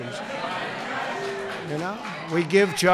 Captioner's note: applause